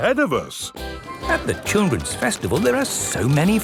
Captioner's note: festival buzz and music